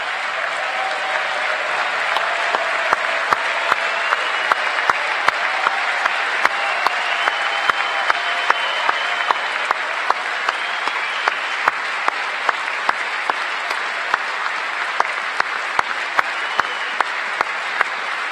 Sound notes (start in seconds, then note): 5.6 cheers and applause; 13.6 applause